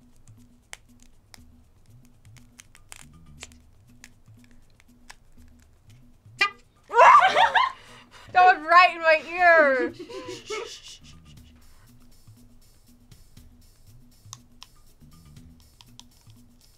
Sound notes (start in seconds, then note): 1.7 taco shell crunching; 6.4 bicycle horn honking; 6.9 laughing; 10.2 shushing; 13.3 taco shell crunching